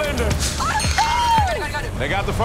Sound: shriek

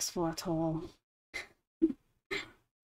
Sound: laughs

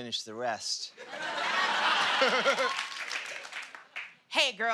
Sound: laughter

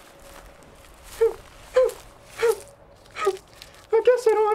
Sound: mouse crying

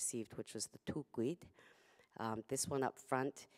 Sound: non-english speech

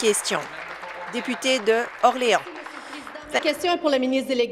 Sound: applause

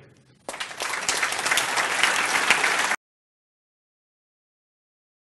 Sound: applause

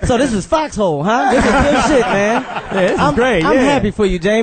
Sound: all laugh

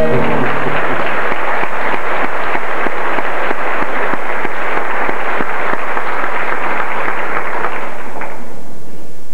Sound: applause

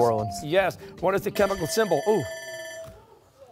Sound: buzzer

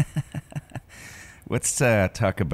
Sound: chuckling

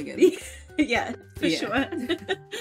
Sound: laughs

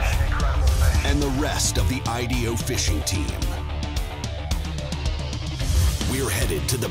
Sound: voiceover

